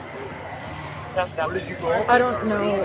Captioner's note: radio chatter